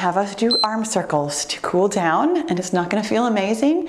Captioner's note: timer beeps